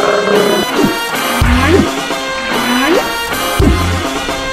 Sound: turtle Sound; shark Sound; fish Sound

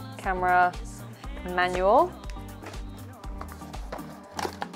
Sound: cardboard scraping

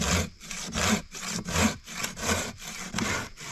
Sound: saw scraping

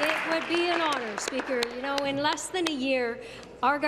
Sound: applause

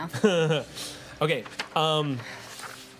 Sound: laughs

